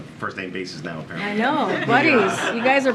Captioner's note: laughter